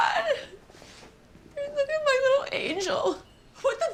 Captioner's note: crying